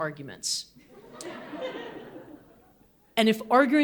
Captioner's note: audience laughing